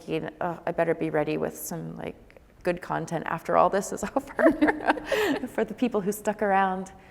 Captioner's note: laughs